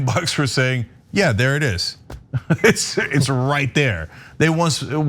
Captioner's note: laugh